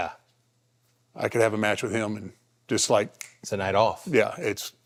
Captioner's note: snaps fingers